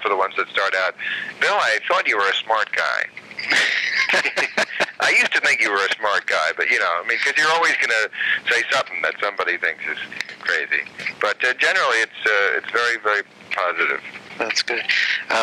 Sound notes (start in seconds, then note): 3.2 laughing